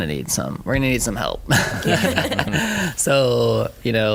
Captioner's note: laughing